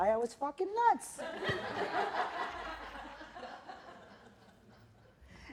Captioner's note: laughter